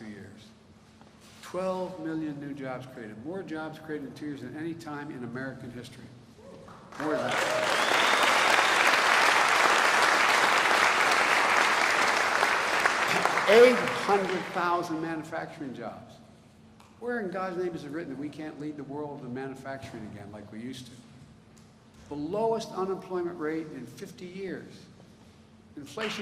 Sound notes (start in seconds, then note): 11.7 applause